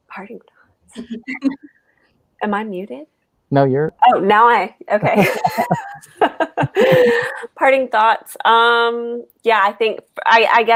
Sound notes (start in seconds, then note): 4.9 group laughing